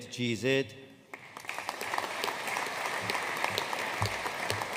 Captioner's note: audience applauding